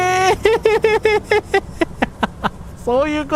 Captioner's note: laughter